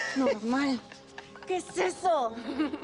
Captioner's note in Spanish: Risas